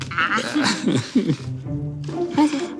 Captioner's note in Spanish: Risas